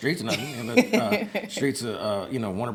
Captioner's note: laughs